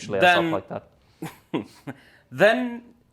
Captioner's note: chuckles